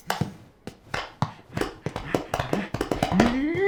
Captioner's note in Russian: хлопки в ладони, чечетка